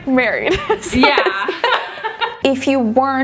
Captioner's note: both laughing